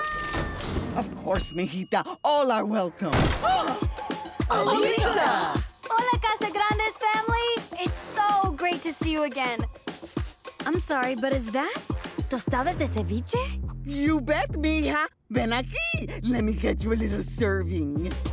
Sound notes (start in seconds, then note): 2.8 gasping